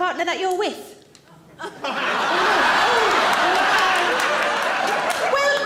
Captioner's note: audience laughing